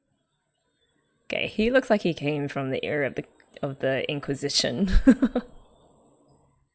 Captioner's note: laughs